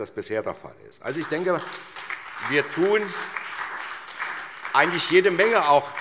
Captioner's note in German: Beifall SPD und DIE LINKE